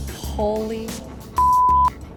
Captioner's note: beep